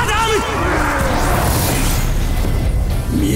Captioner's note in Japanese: 悲鳴